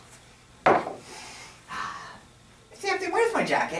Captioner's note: sets can down on table and sighs with satisfaction